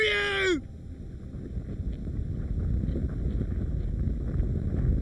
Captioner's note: ground rumbling